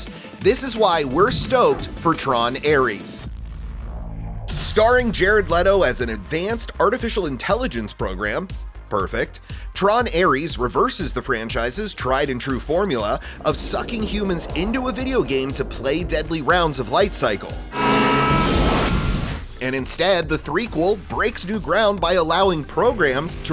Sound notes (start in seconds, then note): 17.5 screams